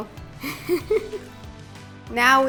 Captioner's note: laughing